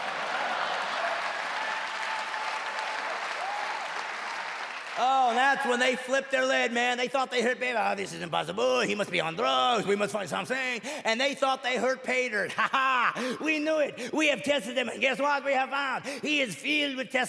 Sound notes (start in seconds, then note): 0.4 laughter; 1.5 loud applause; 4.5 the audience cheers